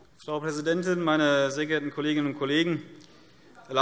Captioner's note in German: none